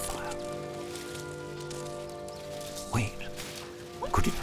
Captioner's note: branches crackling